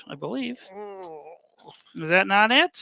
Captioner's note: groans